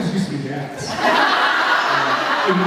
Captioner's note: laughs